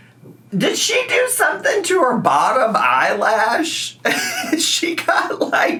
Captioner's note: laughs